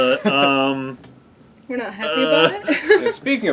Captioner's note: laugh